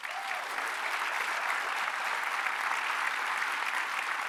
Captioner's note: applause